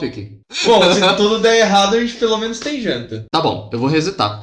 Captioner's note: laughing